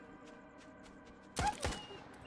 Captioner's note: ominous music; gun firing